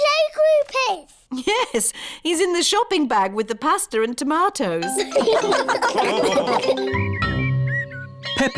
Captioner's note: all laugh